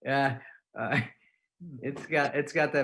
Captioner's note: laughing